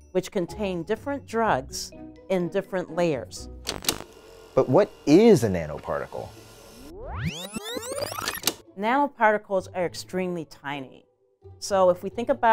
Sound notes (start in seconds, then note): 6.7 tape rewinds